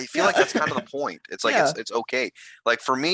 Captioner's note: laughing